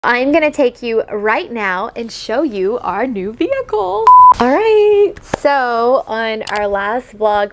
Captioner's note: beep